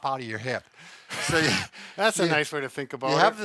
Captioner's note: instructor laughs